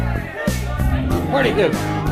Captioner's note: crowd chattering